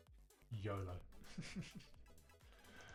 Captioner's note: laughs